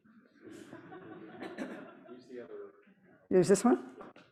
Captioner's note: audience laughs